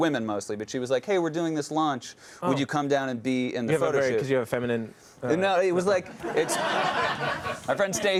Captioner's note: laughter